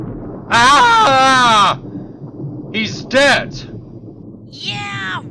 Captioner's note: screams